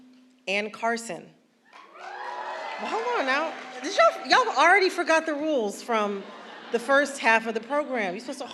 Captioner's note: applause